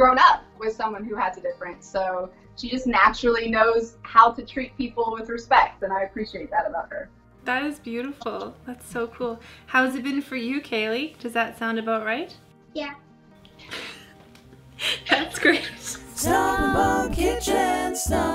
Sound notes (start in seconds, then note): 16.0 laughs